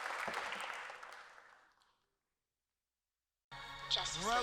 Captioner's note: applause